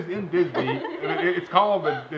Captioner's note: laughter